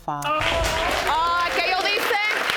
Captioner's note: speaking spanish